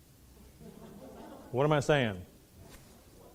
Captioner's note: laughing